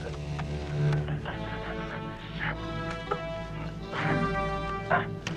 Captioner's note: Beast panting; both grunting